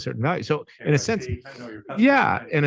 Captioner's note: speaks faintly